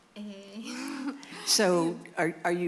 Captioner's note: laughter